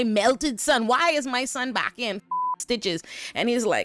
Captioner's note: beep